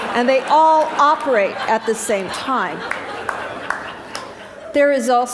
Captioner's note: laughter